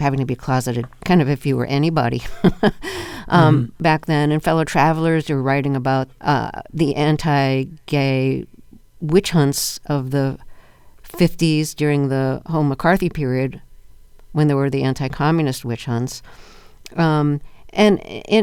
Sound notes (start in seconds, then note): 2.2 laughter